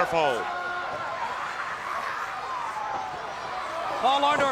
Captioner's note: crowd yelling